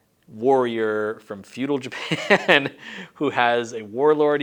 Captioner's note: laughs